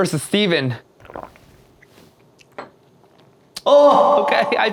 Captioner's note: gulp